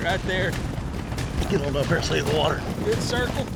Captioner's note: fast hoofbeats